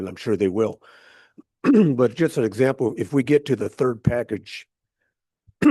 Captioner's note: clears throat